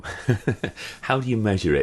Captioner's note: chuckling